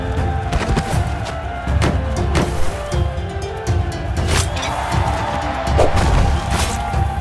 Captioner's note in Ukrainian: Оплески